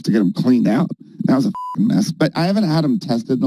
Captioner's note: beep